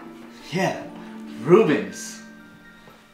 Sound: snaps finger

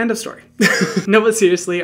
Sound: laughs

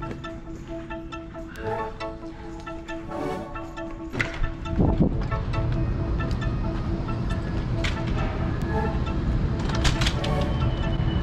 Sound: city noise

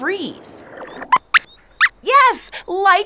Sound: squeaks squeaks

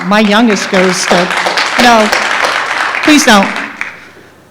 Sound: applause

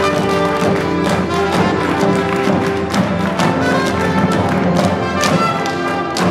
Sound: clapping, stomping continues; instrumental music continues

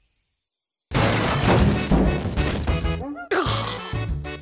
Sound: boom!

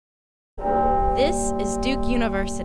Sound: bell tolling

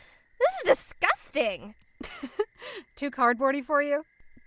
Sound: chuckles

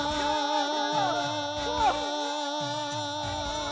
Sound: frenzy of enthusiasm

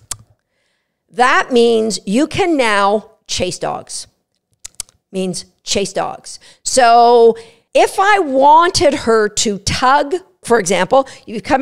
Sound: click sound; click sound

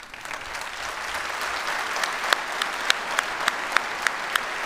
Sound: audience applauds

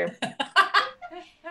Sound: laughter

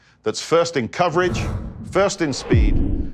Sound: graphics blasting

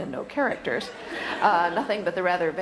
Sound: audience laughter

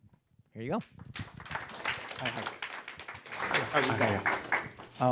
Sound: audience applauding

